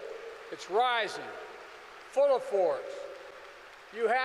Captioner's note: applause